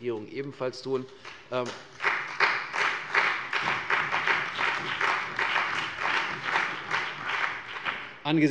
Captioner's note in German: Beifall bei der CDU und dem BÜNDNIS 90/DIE GRÜNEN